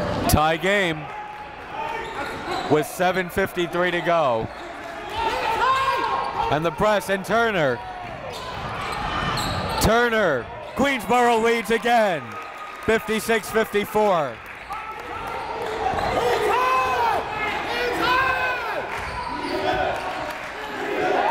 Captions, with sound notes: Tie game, with 7:53 to go. And the press and Turner. Turner, Queensborough leads again, 56-54. (crowd talking) (coaches yelling)